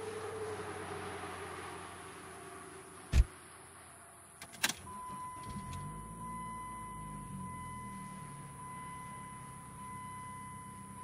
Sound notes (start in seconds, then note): 3.1 vehicle door shutting; 4.4 vehicle starting